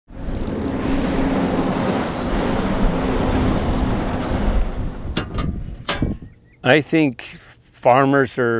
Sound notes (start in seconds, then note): 0.1 tractor working